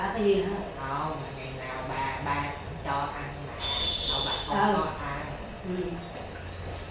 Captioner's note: honking